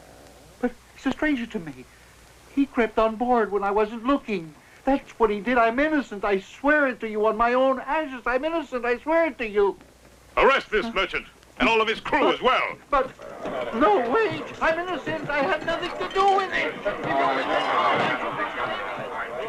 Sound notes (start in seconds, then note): 16.6 chatter